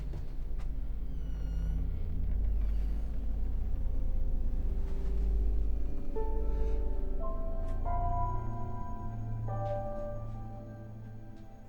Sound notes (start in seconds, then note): 1.0 door squeaks; 6.5 foreboding piano music